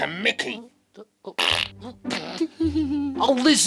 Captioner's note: farts and giggles